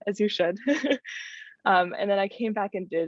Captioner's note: laughter